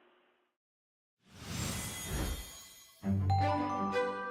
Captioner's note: shimmer; playful music